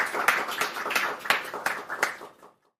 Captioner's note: applause